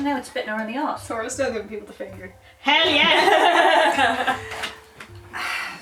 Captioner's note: laughter